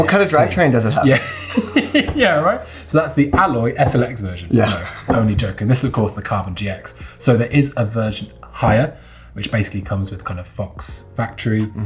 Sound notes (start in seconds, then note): 1.0 laughing; 4.6 laughing